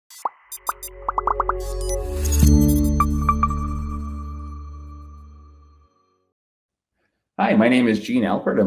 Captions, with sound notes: (bubbles pop) (logo chimes) - Hi, my name is Gene Alpert.